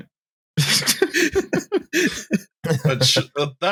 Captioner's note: renewed laughter